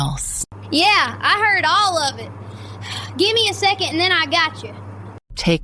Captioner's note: breath